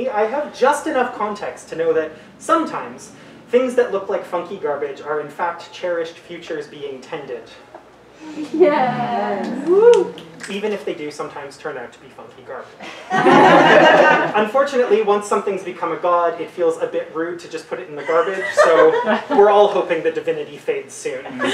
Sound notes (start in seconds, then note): 6.7 audience yeaahs and woo; 12.9 audience laughter; 21.2 audience laughter